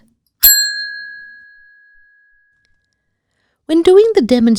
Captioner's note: bell rings